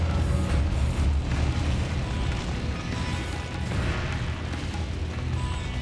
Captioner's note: fire crackles; intense music